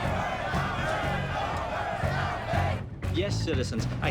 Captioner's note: crowds chanting